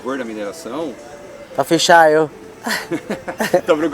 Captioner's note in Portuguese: risos